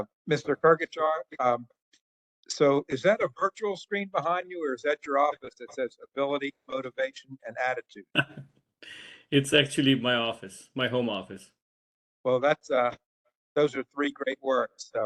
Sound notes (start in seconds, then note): 8.1 laugh